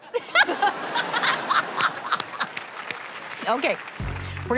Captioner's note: laughter